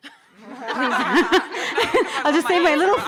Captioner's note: audience laughing